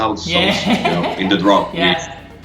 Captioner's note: laughing